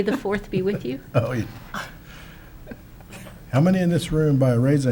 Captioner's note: laughs